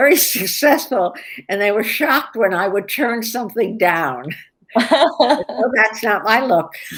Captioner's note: laughter